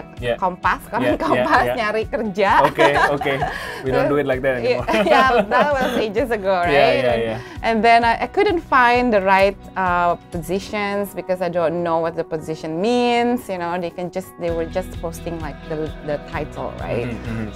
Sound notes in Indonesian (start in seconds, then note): 4.8 tertawa